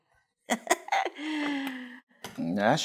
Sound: laughing

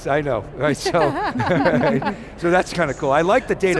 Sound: laughing

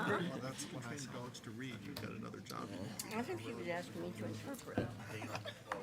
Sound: attendees chattering

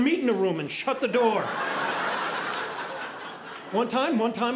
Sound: audience laughing

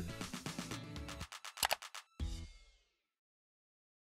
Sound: upbeat music; mouse clicking

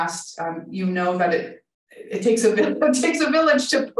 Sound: chuckling

